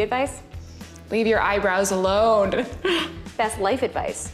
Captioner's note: laughs